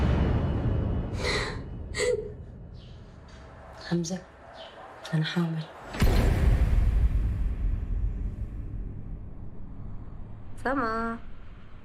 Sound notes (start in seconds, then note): 1.5 woman speaking in foreign language